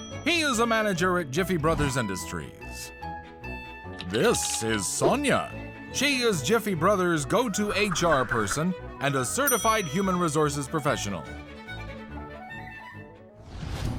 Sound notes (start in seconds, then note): 3.8 keyboard clicking